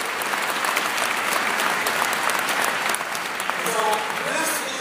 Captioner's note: applause